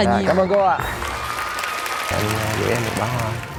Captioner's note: applause